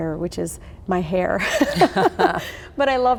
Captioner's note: both laugh